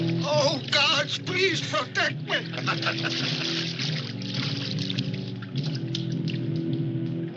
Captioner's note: laughter